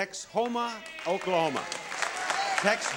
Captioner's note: cheering